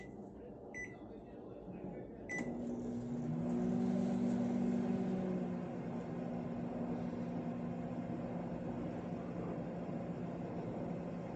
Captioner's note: microwave whirring; starts microwave